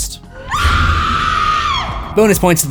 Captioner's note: screams